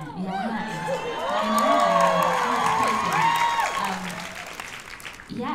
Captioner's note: cheers and applause